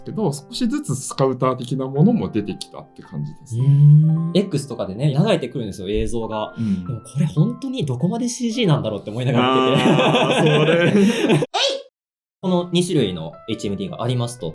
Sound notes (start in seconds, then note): 9.3 laughs